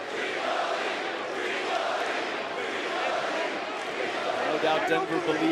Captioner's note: crowd chants